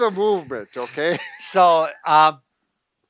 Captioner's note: laughter